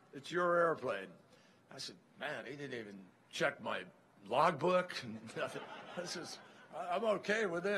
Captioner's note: laughter